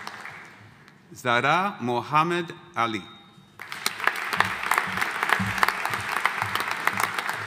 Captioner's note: audience applauding